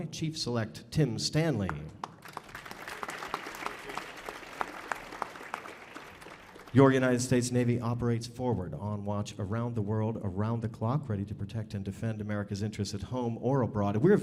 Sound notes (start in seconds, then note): 2.0 audience applauding